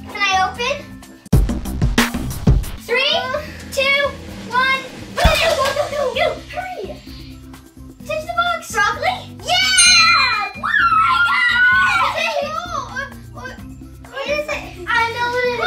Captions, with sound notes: Can I open? [Fun music] Three, two, one, go! Go, go, go, go, go! Go, hurry! Touch the box! Broccoli? Yeah! [Ding] I got it! [Cheers] What is it? I know what it is.